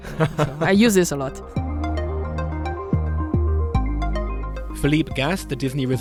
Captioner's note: voiceover